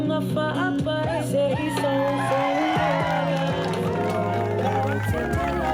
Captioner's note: cheers, applause